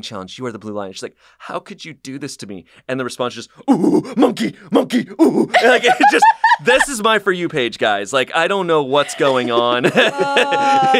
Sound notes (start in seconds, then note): 5.5 laughs; 9.0 laughs